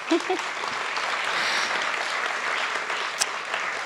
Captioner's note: applause